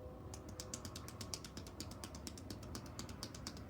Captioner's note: hands tapping